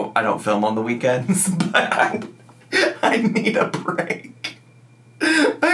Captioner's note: laughing